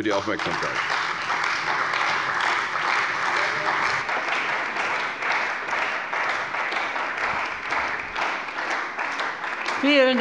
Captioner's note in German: Beifall bei der CDU und dem BÜNDNIS 90/DIE GRÜNEN